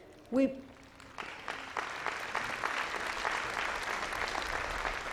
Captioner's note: audience applauding